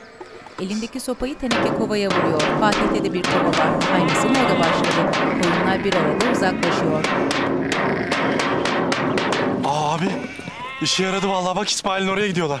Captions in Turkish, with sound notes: (Tenekeye vurma sesi) Abi işe yaradı vallahi, bak İsmail'in oraya gidiyorlar.